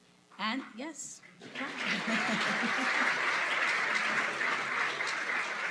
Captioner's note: applause